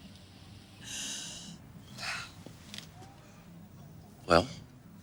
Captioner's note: sighs